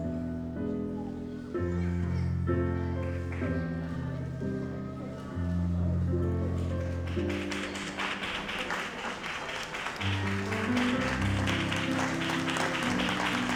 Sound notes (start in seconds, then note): 6.6 audience applauds